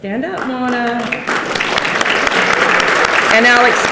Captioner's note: participants clap